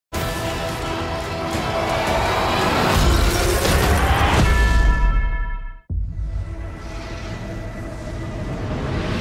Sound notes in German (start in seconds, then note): 0.2 Spannungsvolle Musik; 2.8 Explosion